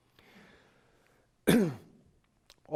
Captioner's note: coughs